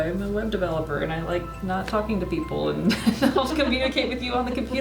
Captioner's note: laughs